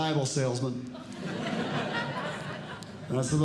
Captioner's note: audience Laughing